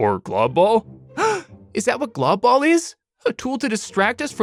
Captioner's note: gasps